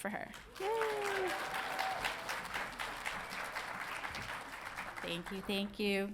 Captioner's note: audience applauding